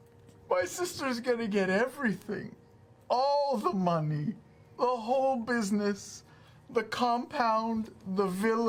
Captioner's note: tearfully